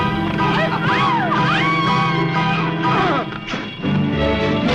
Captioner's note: townspeople yelling